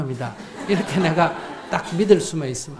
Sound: audience laughs

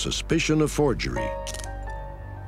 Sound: hand cuff clicks

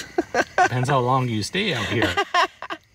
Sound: laughing

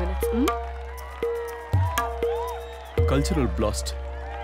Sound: cheering

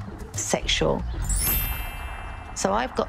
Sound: bells ringing

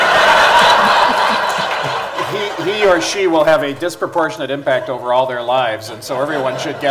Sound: laughter

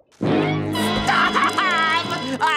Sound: crying

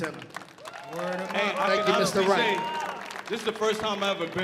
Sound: audience applauding

